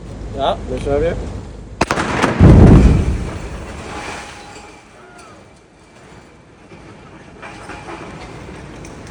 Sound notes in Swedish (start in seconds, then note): 1.8 explosion